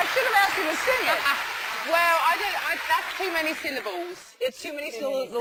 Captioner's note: laugh